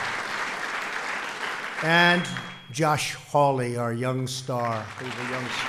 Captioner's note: applause